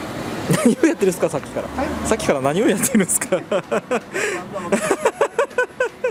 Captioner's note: laughs